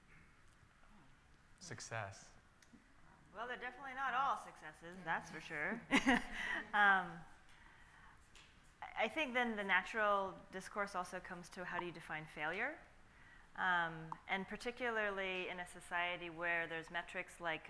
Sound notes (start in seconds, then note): 5.9 laughs